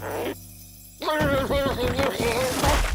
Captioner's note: shouting